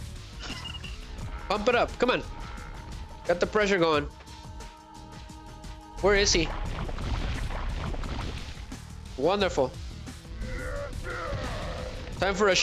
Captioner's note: groaning